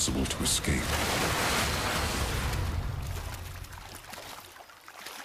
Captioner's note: water whooshing